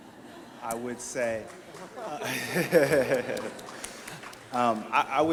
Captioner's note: audience laughs; laughs